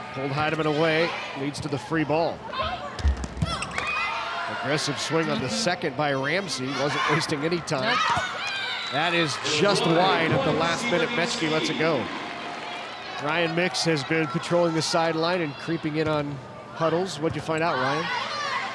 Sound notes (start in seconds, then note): 3.1 ball thumping